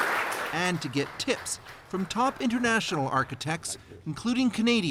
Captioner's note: applause